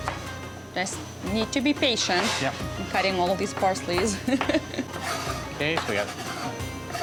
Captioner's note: laughs